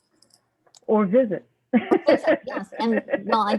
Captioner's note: laughter